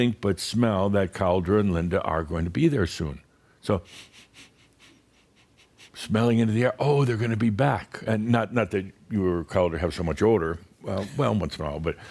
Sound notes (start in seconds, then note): 3.8 Adamus starts sniffing the air